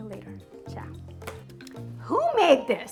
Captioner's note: hand slapping